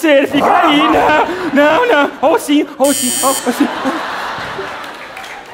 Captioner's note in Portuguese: campainha